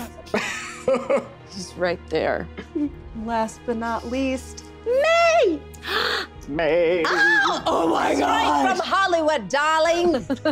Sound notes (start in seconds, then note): 6.8 sing-songy